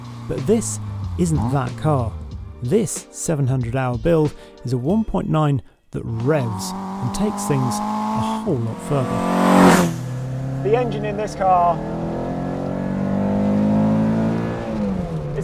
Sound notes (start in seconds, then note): 9.1 car engine revving; 13.2 car engine roaring